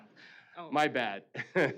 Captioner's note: laughing